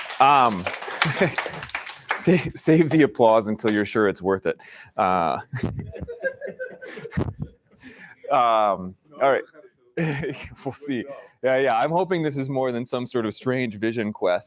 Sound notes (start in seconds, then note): 0.0 applause; 1.6 laughs; 5.5 laughter